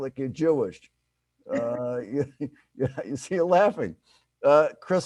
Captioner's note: chuckles